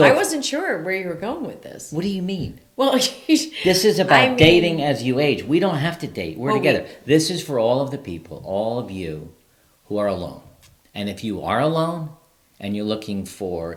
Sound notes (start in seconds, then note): 4.0 laughs